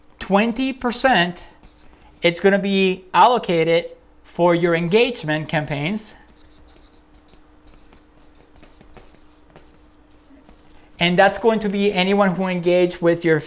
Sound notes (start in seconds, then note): 7.5 marker scribbles